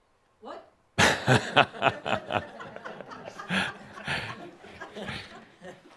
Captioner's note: Adamus chuckles and audience laughter